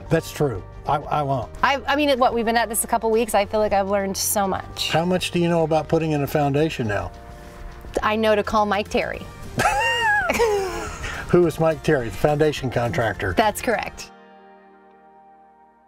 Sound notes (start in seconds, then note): 9.5 laughing